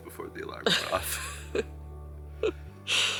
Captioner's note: laughing